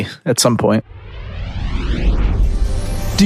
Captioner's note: air whooshing